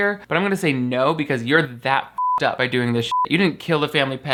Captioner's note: beep